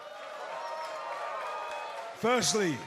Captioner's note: cheers and applause